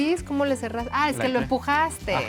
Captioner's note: speaking Spanish